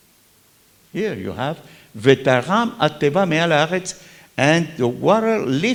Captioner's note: talks in Hebrew